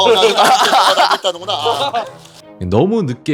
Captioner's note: haha